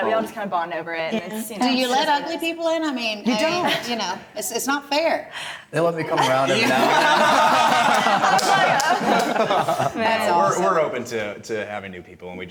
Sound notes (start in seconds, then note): 7.9 laughing